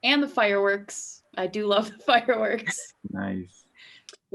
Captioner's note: laughs